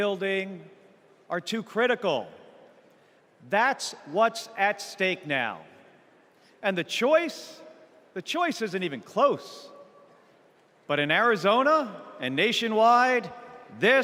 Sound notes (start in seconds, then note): none